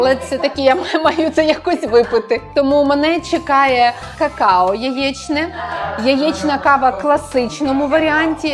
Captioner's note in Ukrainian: сміх